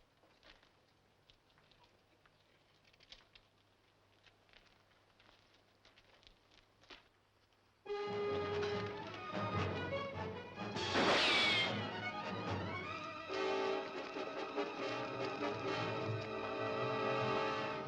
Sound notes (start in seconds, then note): 8.1 dramatic music; 10.8 gun firing